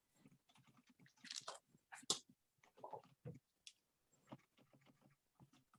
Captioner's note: keyboard keys clicking